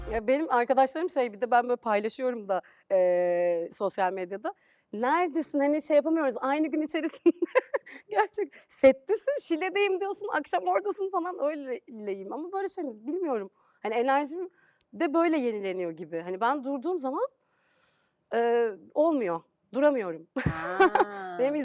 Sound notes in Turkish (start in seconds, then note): 7.2 kahkaha; 20.4 kahkaha